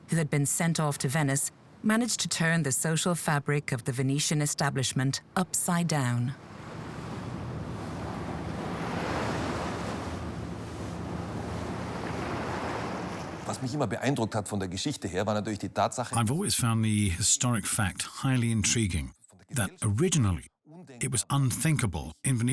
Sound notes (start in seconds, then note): 6.3 waves crashing; 13.6 speaks in foreign language